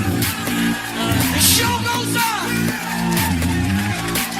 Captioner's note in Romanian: Aplauze